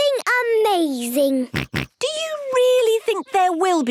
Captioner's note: snorts